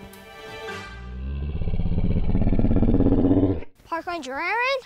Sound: low growling

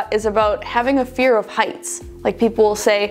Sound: none

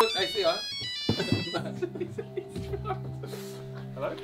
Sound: phone ringing

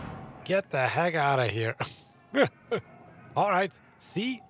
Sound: laughs

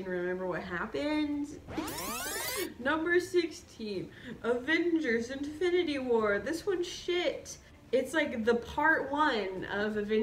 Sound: rewind noise

